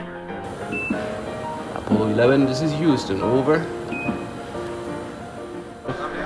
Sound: Quindar intro tone; Quindar outro tone

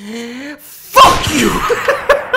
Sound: gunshot; laughs

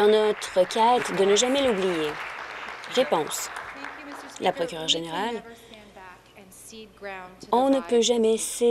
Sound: applause

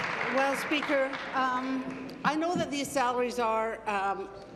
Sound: applause

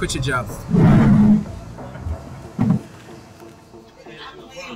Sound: chair scraping

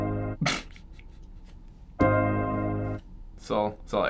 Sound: snorting

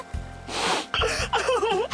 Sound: sniff

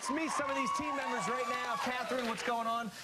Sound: cheers and applause

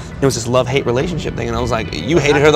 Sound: laughter

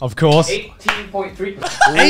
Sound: laughing

